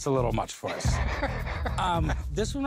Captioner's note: laughs